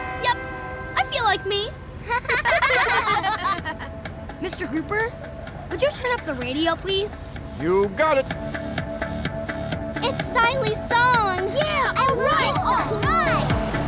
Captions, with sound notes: Yup, I feel like me. [laughing] Mr. Grouper, would you turn up the radio please? You got it. It's Stylee's song! - Yeah, I love this song! - Alright!